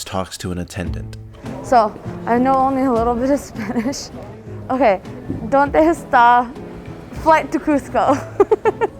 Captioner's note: spanish